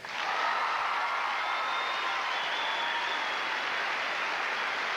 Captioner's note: applause